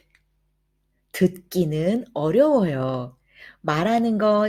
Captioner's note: Korean